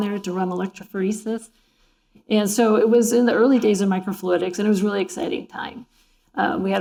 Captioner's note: none